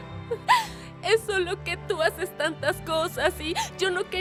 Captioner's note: Sollozando